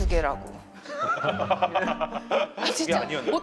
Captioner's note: laughing